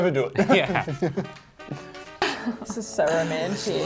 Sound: laughing

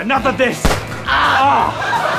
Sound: gunshot; screams

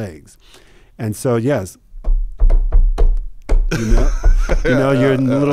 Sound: taps table

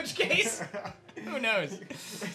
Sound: laughs

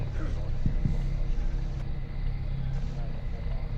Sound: knock on car window

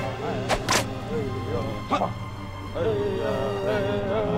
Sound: leather whipping

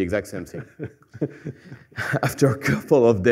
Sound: laughter

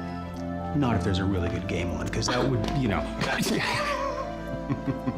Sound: laughing

